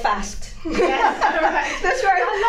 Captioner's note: laugh